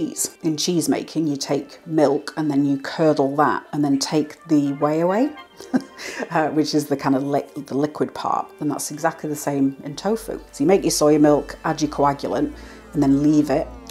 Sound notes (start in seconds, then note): 5.6 laugh